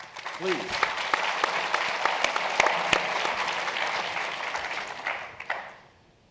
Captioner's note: applause